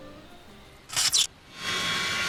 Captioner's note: A Spark noise plays